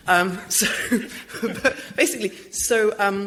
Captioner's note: laughter